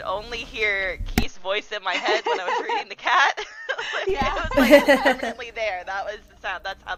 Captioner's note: laughter